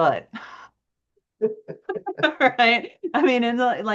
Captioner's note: laughs